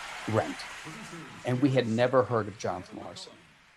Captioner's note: cheers and applause